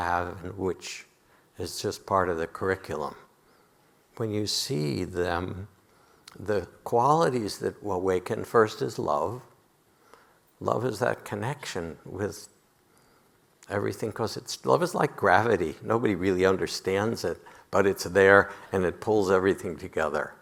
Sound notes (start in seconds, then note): none